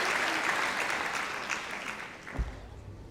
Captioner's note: applause